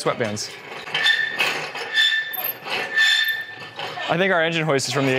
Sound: engine hoist squeaking

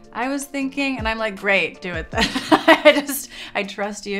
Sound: laughs

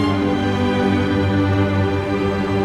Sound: none

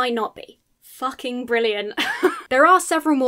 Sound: laughs incredulously

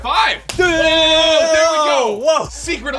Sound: zapping

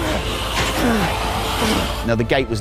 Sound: shouts and grunts; swords hitting

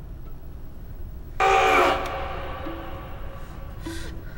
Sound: screaming; whimper

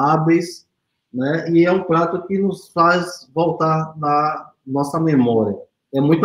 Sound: speaks portuguese

